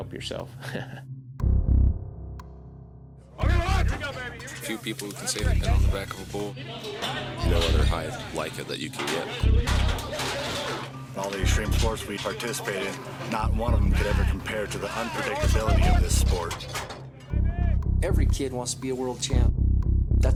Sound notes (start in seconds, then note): 0.6 laughs; 3.7 cowboys chattering; 10.5 gates banging